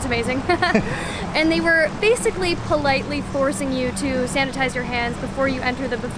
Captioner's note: laughter